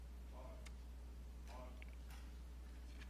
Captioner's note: marching